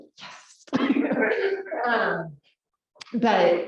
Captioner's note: laugh